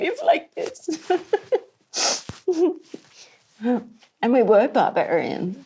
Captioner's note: laughs